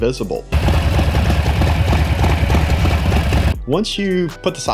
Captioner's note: bike engine roaring